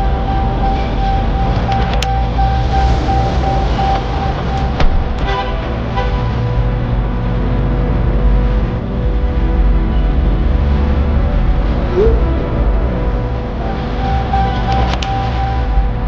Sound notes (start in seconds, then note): 0.5 intense hip hop music; 11.5 phone chiming